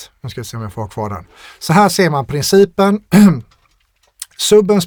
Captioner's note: clears throat